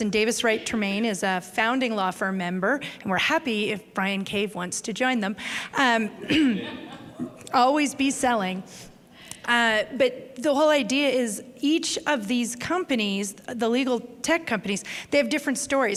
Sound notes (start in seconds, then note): 6.2 laughter